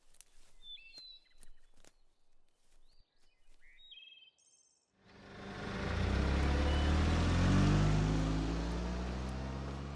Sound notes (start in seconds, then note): 0.1 birds chirping; 5.0 engine revving